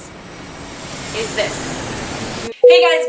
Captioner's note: airplane taking off